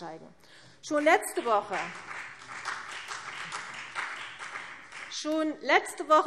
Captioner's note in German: Beifall